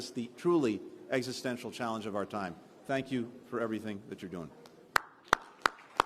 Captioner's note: applause